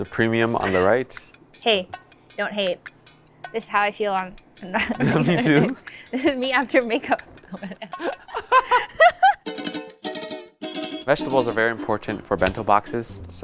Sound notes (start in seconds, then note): 8.8 laughs; 10.9 upbeat music